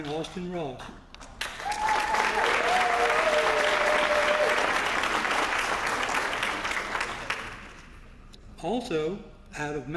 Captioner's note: applause